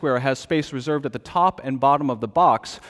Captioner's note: none